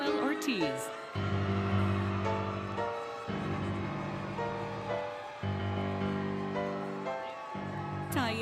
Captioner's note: applause, Cheering, Music